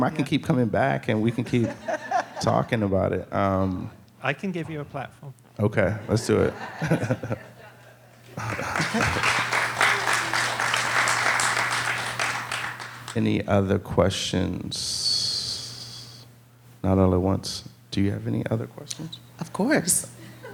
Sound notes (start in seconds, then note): 6.0 audience laughing; 8.3 audience clapping